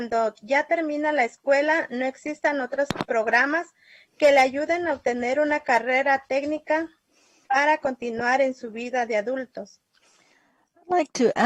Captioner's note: speaking spanish